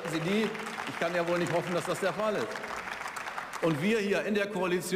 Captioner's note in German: Beifall